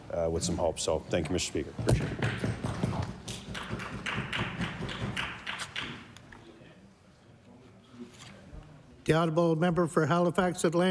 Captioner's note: some Applause